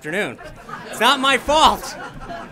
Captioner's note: laughter